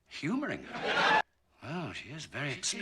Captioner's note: laugh track